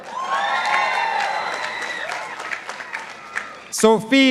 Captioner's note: participants applauding